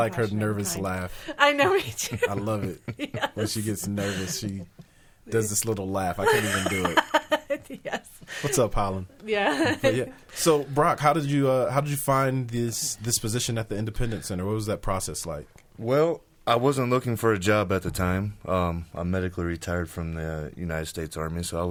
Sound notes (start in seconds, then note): 6.2 laughs